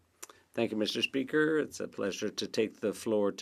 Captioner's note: speaking French